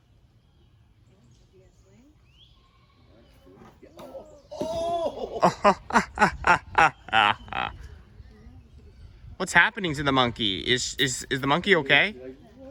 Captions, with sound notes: -Ooh! -[laughing at monkeys] What's happening to the monkey? Is the monkey okay?